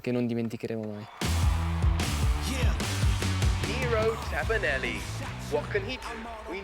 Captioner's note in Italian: Applauso